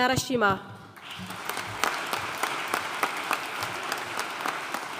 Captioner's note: audience applauding